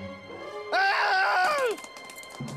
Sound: yells

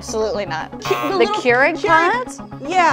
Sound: buzzer sounds

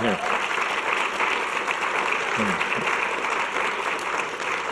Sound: audience clapping

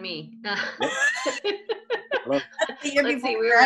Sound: laughing

